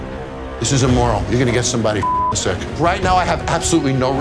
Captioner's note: beep